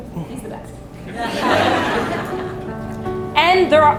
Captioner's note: audience laughs